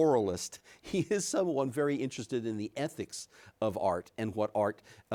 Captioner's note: chuckles